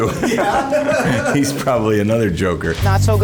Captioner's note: laughter